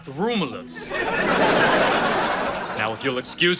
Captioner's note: audience laughing